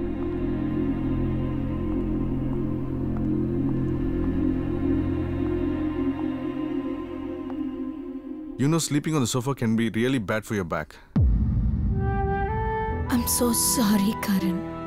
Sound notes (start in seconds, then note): 2.5 footsteps